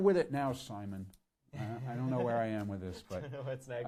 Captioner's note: laughing